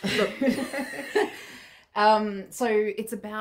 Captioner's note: chuckling